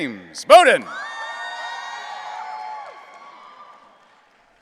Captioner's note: audience cheering